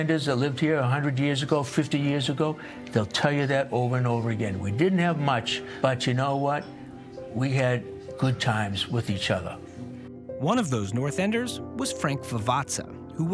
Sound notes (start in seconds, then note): none